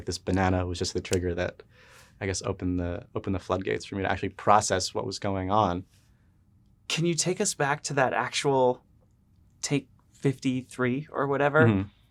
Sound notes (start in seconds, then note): none